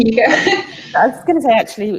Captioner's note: laughs